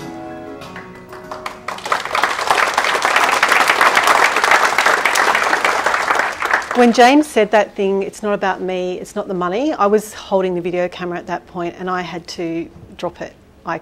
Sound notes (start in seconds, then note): 0.6 audience clapping